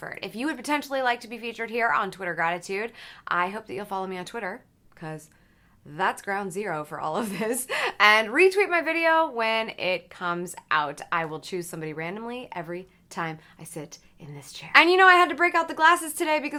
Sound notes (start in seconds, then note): 7.4 chuckles